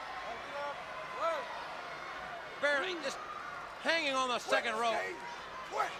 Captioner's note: crowd chatters